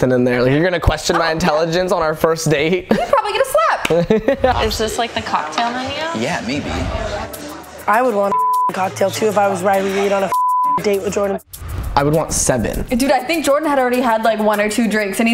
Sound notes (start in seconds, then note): 3.9 laughs; 8.2 beep; 10.2 beep